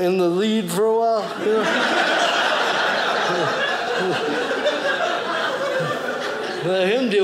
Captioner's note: audience laughing